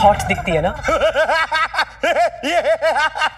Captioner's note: Laughing